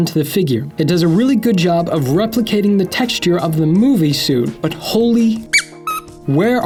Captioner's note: squeaking sound